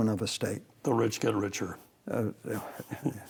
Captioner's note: both chuckle